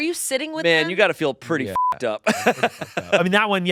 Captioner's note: beep; laughs